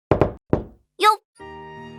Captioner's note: kno-Kno-Knock